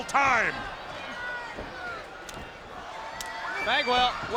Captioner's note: spectators cheering